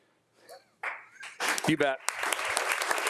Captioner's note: attendees applauding